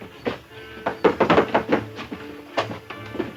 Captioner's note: knock rapping